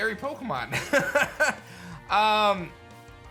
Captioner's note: chuckles